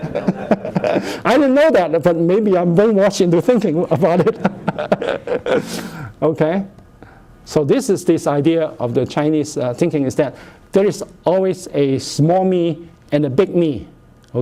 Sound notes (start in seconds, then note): 0.0 laughter; 4.0 laughter